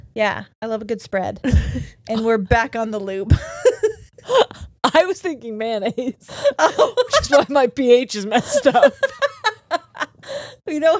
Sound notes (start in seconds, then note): 3.3 both laugh